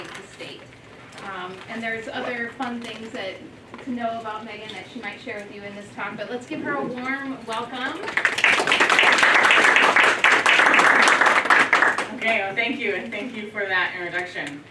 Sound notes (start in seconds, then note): 10.8 applause